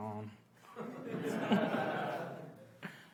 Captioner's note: laughs